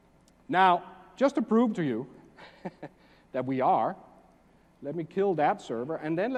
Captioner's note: laugh